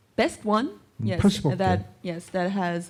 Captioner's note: speaking korean